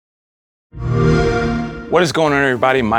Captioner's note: xbox sound